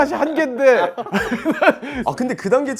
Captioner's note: haha